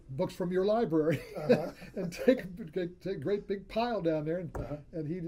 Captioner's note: laughs